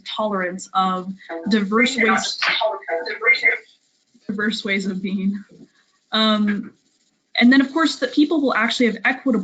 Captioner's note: loud echo